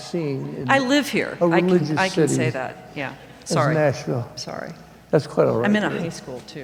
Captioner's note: laughing